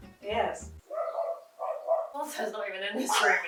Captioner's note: dogs woofing